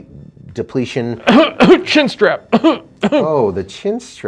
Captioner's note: coughing